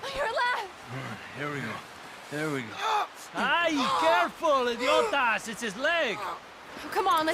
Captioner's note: John screams in pain; in Spanish